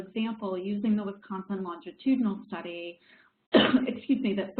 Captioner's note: coughs